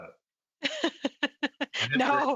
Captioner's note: laughter